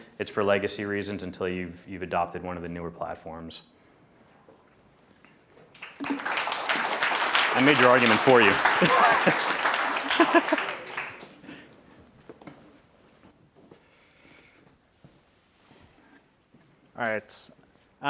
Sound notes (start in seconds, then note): 5.7 audience clapping; 11.0 laughs